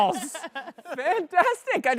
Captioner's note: laughs